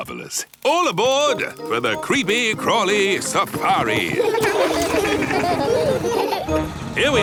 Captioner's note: laughing